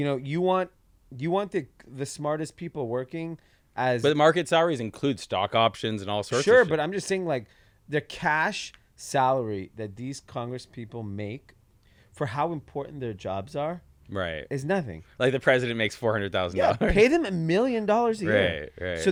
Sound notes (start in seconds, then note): 16.6 giggles